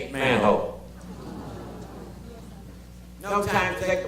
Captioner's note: audience gasps